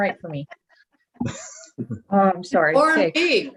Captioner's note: all laughs